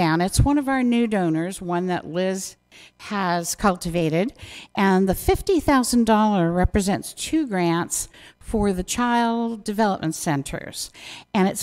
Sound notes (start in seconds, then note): none